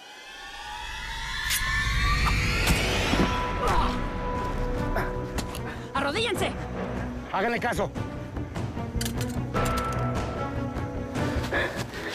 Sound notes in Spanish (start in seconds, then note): 2.8 Grito